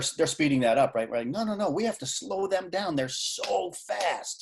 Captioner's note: clapping